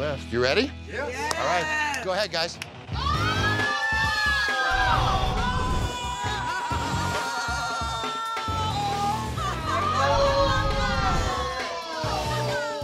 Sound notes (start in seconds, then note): 3.5 crowd cheers